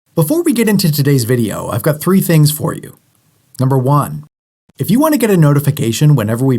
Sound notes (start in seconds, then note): 0.2 voiceover